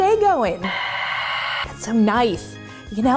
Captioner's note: mechanical screeching